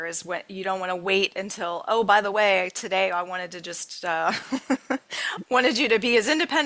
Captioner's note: chuckling